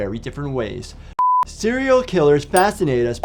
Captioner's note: high pitched whine blares; light bulb chimes